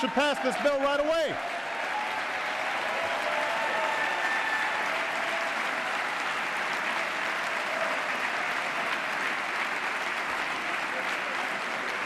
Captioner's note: applause